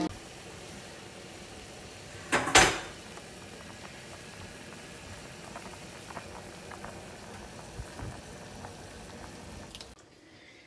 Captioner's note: boiling sound